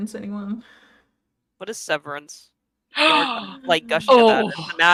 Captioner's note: gasps